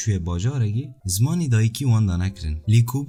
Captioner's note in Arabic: الاسبانية